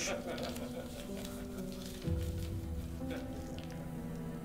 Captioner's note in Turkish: Gülme sesleri